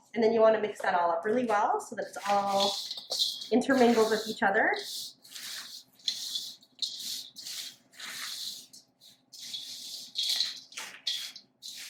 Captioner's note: stirring noises